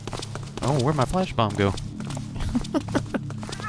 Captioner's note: laughs